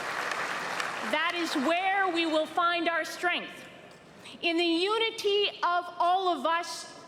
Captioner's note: applause